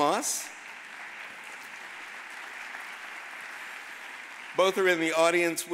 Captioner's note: audience applauding